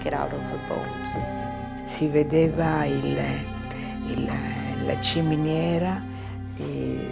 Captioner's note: speaking in foreign language